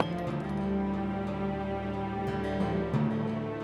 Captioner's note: clink